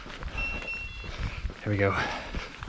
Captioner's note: GARMIN chimes